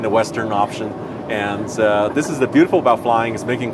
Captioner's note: laughs